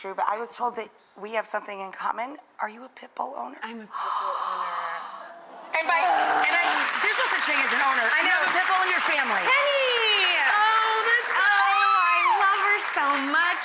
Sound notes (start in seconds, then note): 3.8 gasps; 4.9 D'Arcy groans; 5.9 audience applauds; 10.6 audience applauds; 10.6 shrieks